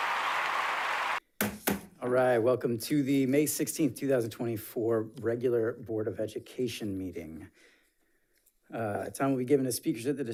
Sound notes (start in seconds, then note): 1.4 gavel bangs